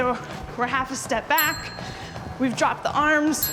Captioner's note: bell dinging